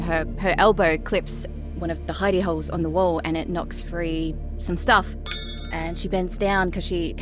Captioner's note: metal clangs